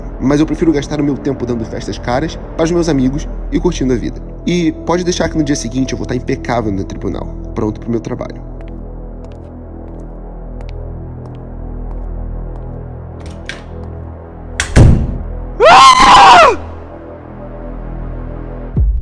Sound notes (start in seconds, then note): 15.6 shout of hate